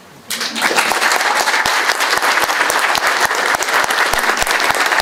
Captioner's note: audience applauding